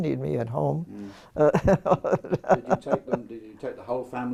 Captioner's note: laugh